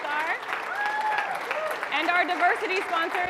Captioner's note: audience applauding